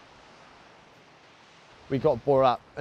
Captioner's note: gentle swooshing sound